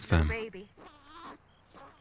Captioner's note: baby crying